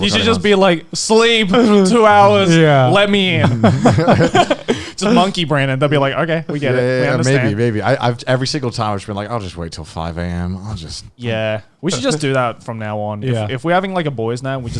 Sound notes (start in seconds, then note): 3.2 all laughing